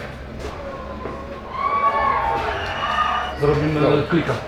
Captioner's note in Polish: tłum szaleje